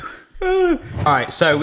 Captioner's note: squeal